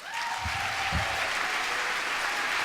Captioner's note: applause